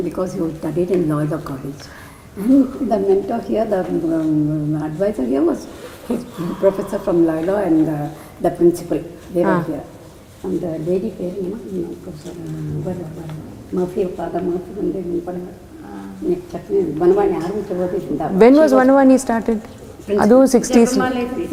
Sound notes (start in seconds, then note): 10.3 in Tamil; 19.6 in Tamil